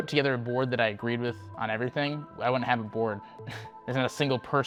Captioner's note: laughing